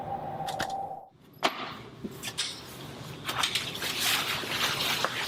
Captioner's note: none